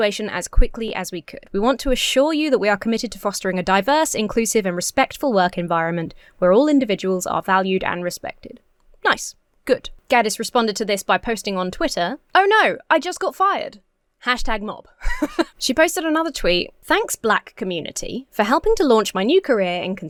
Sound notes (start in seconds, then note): 15.0 laughs